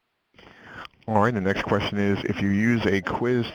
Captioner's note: voiceover